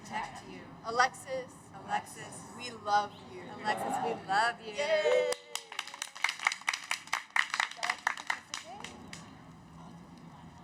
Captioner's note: cheers